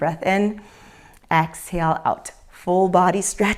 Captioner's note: exhales; inhales